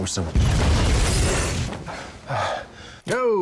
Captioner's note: explosion booms; Ted panting